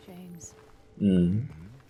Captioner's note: nonverbal grunt as interjection